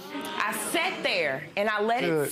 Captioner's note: audience oohs